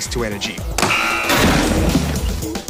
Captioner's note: alarm buzzes